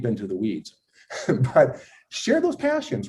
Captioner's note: laughing